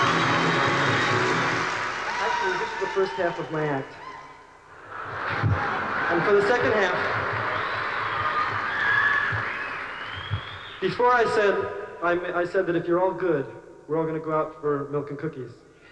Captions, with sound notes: IS THE FIRST HALF OF MY ACT. [LAUGHTER] AND FOR THE SECOND HALF... [CHEERING] BEFORE, I SAID THAT IF YOU'RE ALL GOOD, WE'RE ALL GONNA GO OUT FOR MILK AND COOKIES.